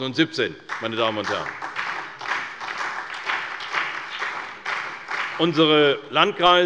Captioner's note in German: Beifall bei der CDU und dem BÜNDNIS 90/DIE GRÜNEN